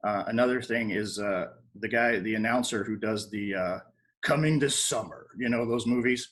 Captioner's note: deeper voice